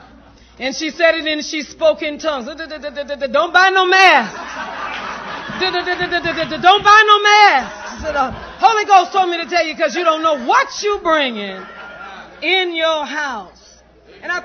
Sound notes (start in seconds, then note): 4.2 laughter